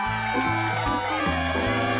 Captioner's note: cheers and applause